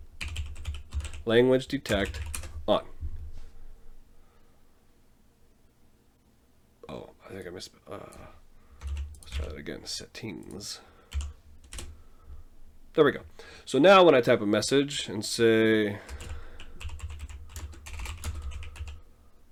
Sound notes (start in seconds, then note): 2.8 speaking to himself